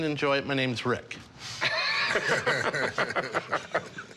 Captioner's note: laughter